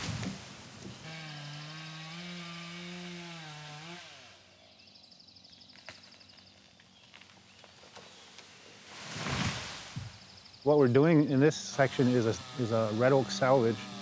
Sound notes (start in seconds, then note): 0.0 chainsaw buzzing; 4.6 tree falling